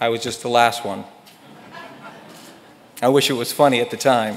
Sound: audience laughs

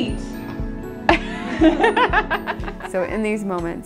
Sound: laughs

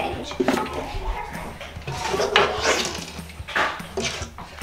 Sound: clothes rustle

